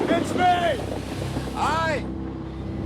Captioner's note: shouting